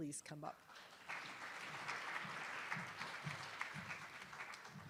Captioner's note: attendees applauding